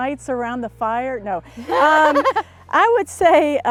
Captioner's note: laughs